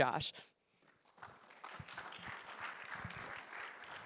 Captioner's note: applause